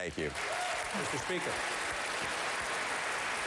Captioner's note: applause